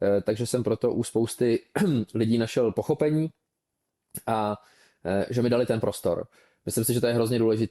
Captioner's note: clears throat